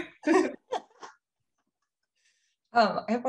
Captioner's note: both laughing